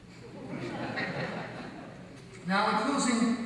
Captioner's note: audience laughs